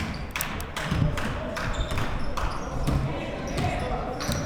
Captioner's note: clapping